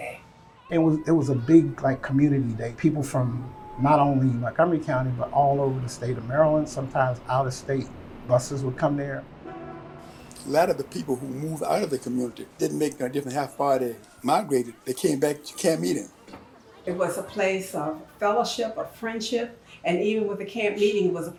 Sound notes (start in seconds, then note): 9.4 bus honk; 16.8 children talking